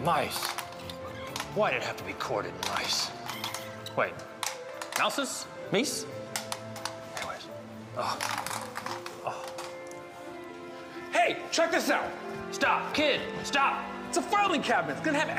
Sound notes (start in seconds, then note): 6.2 mice tapping